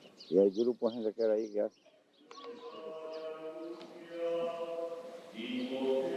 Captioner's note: birds chirping